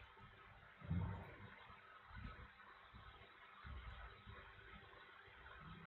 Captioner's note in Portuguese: barulho de água